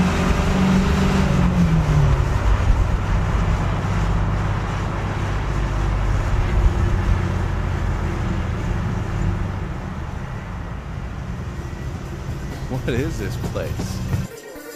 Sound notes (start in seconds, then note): 0.6 engine revving